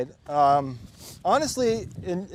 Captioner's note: sniffles